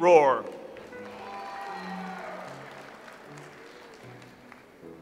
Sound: audience applauds

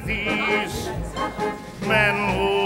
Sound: crowd chattering

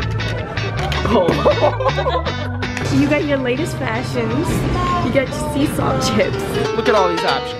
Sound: laughter ensues

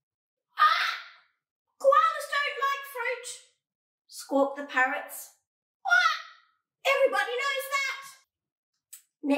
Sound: squawk

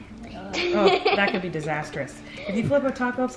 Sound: giggles

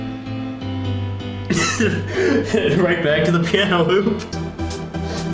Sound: laughs

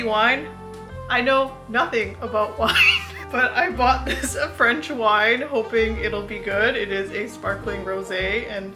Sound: laughs

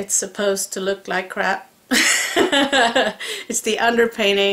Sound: laugh

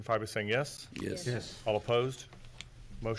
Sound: multiple Voices

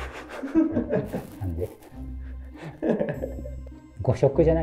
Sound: laughing

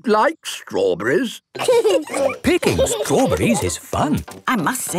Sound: laughing

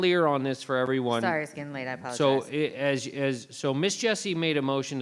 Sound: faintly speaking

